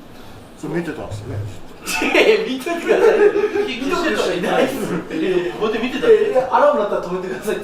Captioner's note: laughs